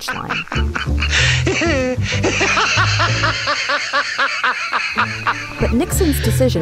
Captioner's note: manic Laughter